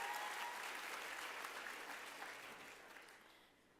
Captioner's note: applause